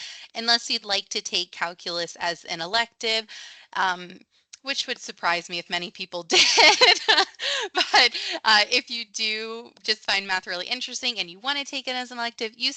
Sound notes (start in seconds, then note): 6.4 laughs